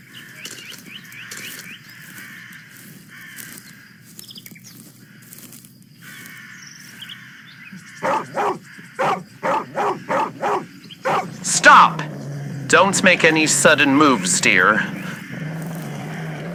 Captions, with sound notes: (walking over grassing yard fx) (dog starts barking fx) Stop! Don't make any sudden moves, Dear.